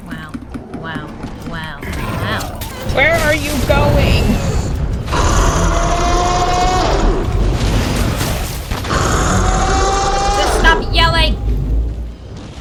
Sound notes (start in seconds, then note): 5.5 screes in B-52